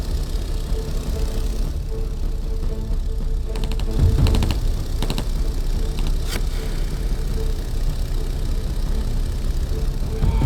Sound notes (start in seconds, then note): 2.9 shots being fired